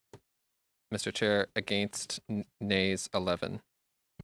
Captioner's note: speaking French